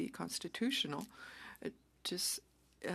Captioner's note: speaking French